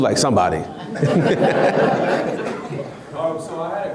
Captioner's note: laughs